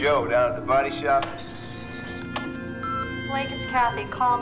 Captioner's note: beeping